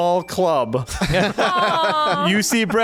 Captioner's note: laughing